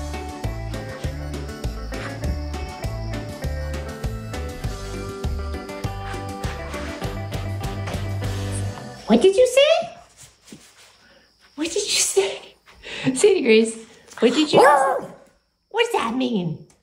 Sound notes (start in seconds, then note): 14.4 short howl